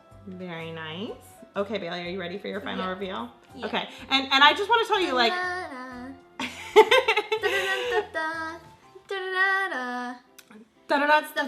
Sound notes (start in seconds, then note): 6.4 laughs